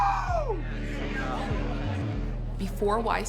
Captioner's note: ship horn